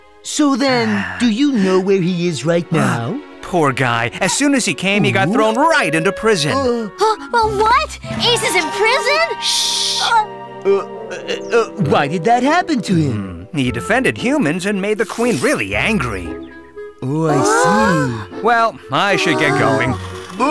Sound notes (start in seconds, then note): 10.5 stammering